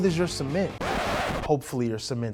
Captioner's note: record scratches